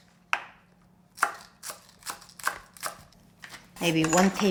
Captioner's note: knife chopping